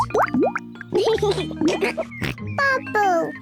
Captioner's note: laughs and snorts; all laugh